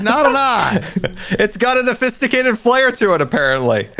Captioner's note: laughs